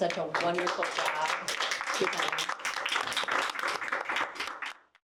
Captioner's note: audience applauding